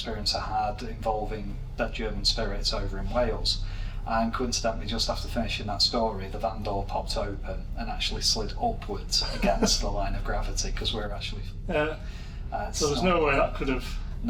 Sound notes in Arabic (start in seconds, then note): 9.1 يضحك